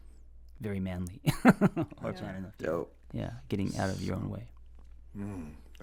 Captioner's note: laughs